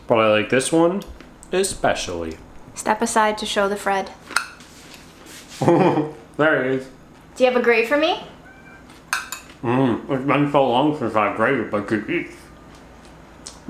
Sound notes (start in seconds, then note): 5.6 chuckles; 9.0 utensil clinking